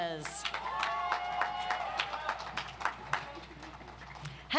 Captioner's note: audience applauds